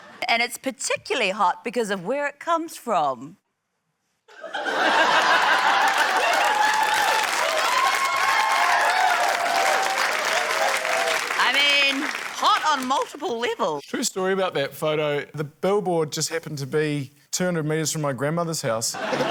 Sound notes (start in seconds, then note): 0.0 laughter; 4.3 laughter; 6.4 cheering, applause